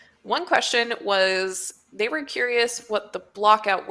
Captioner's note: none